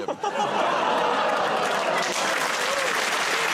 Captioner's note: applause; audience groans